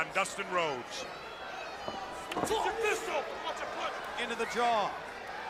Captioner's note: crowd chatter